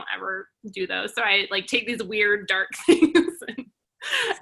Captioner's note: laughs